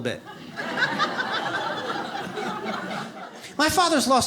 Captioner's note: audience laughs